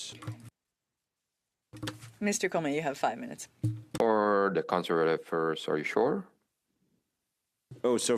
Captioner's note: speaking French